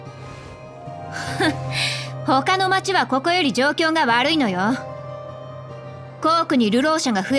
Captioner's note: sigh